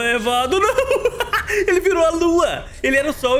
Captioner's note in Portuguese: risos